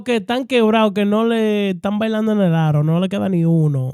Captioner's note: speaking In Foreign Language